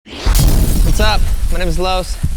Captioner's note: futuristic exploding